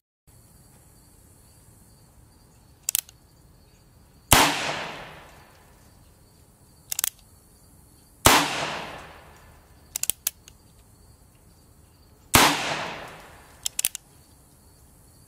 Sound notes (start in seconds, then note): 2.8 click; 4.3 gun fires; 6.9 click; 8.2 gun fires; 9.9 click; 12.3 gun fires; 13.6 click